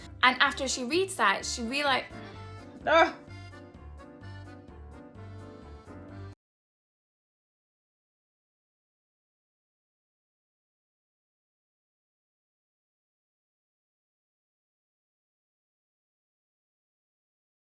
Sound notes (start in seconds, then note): 2.7 scoffing; 4.3 bright music